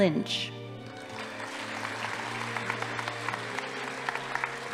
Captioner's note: audience applauding